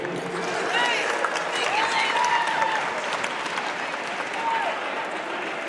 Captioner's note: audience cheers and applauds